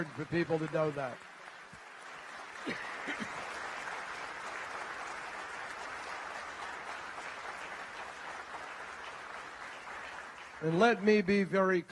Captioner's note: applause